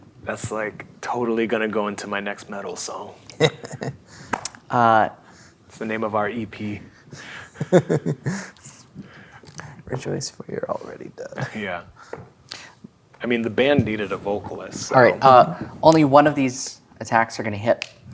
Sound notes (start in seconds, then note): 3.3 chuckling; 7.2 laughing